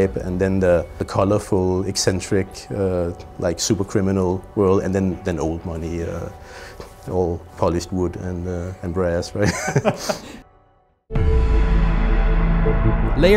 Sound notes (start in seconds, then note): 9.4 laughs; 12.2 upbeat music